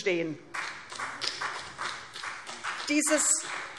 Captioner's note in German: Vereinzelter Beifall CDU